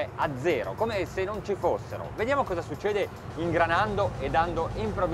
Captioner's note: engine whirring